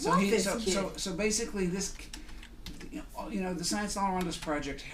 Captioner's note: voiceover